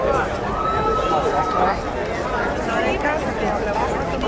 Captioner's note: crowd cheering